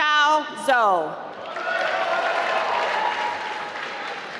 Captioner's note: applause